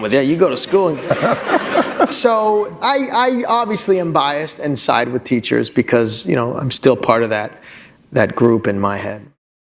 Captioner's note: laughter